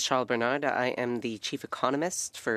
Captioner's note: speaking French